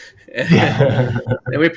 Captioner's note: laughing; laughs